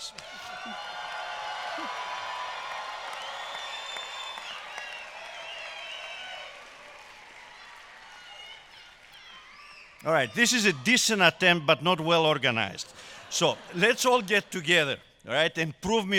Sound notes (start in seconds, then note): 1.5 cheers and applause